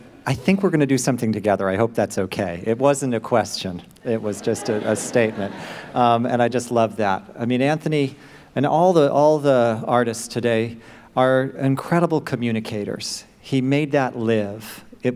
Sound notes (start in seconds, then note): 4.2 laughter